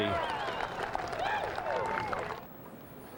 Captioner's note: <i> crowd cheering</i>